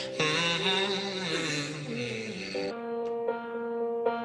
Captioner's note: man vocalizing